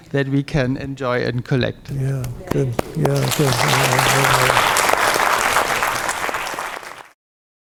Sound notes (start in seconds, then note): 3.3 faintly speaking; 4.7 crowd applauds